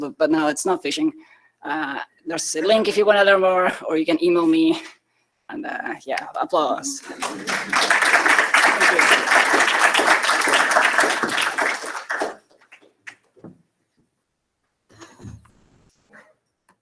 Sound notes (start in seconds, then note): 7.0 applause